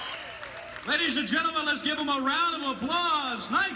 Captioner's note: crowd cheering